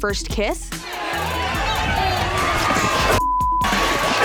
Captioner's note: crowd cheers